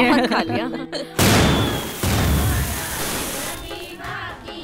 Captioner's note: Crackers bursting